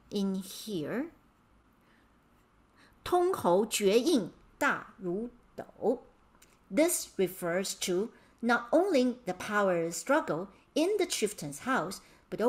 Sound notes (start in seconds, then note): 3.2 speaking in Mandarin